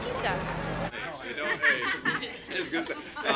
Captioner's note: people talking together